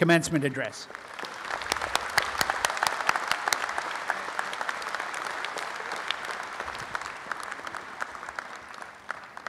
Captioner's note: applause